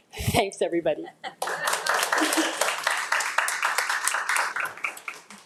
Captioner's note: attendees applauding